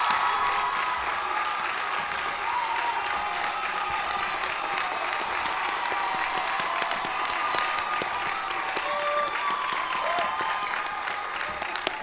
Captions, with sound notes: ALUMNA AND YOUR COMMENCEMENT SPEAKER, ALEXANDRA BILLINGS. [APPLAUSE]